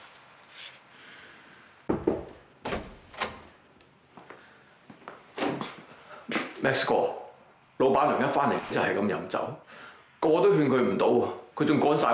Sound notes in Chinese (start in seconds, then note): 1.9 敲門聲